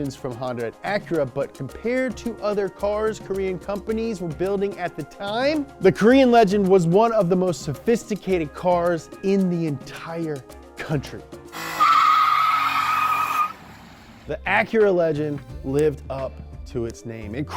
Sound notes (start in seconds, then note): 11.6 tires screeching